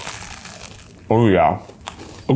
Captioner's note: crunching